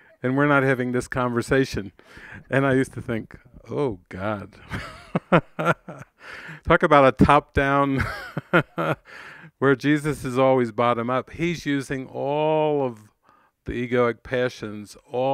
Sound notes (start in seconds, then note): 4.3 laughs joyfully; 8.7 laughs